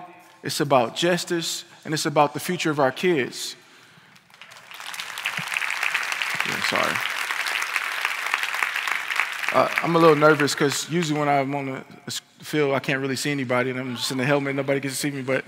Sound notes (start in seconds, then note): 9.7 applause